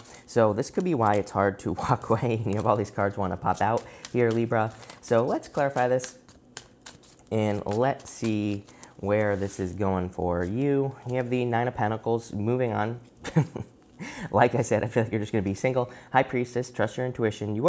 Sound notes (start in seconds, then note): 13.2 chuckles